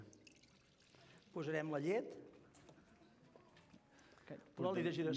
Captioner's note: non-english speech